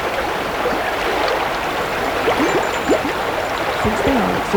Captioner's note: running water continues